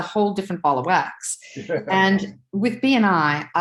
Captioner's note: chuckles